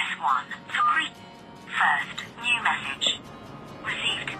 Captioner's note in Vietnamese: bíp